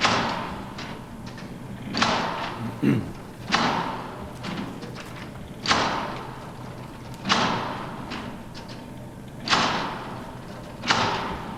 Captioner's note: machine Sound